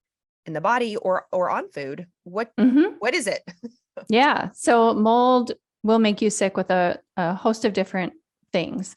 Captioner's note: chuckles